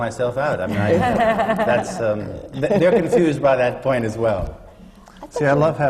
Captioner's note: laughter